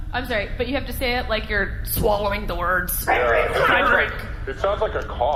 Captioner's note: strained